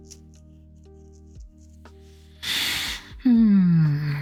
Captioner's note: sighs